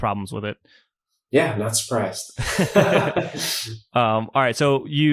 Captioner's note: laughs